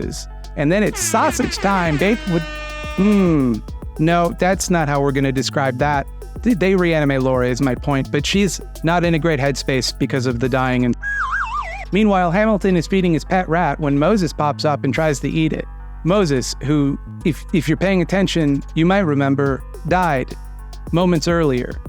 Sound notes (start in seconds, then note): 11.0 slide whistle noise